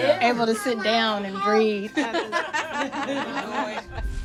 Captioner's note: laughing